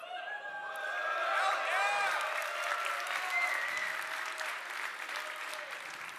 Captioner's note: applause